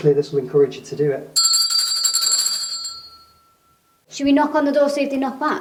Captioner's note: bell ringing